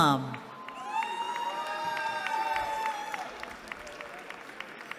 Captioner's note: cheering